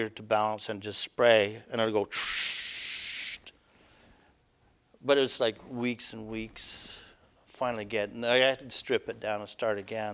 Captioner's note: hiss of air